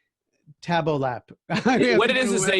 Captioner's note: laughing